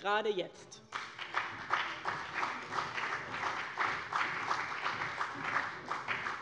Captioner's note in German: Beifall bei dem BÜNDNIS 90/DIE GRÜNEN und der CDU